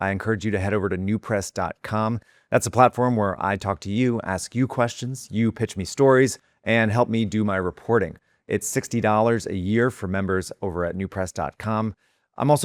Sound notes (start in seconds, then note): none